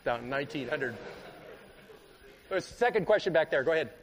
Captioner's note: laughter